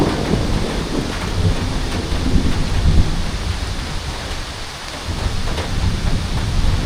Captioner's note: rain